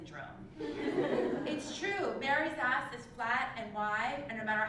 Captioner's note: laugh